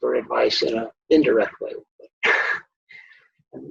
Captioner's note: chuckles